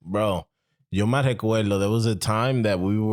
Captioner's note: speaking In Foreign Language